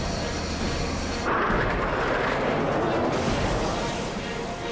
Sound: plane roaring; dramatic music plays

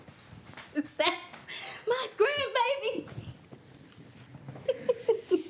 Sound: laughing

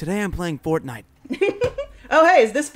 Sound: Diana giggles

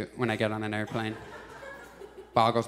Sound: audience laughs

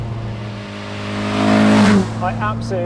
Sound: car roars

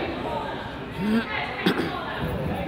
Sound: man coughs; coach yells

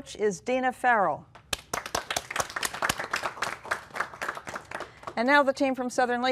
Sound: applause

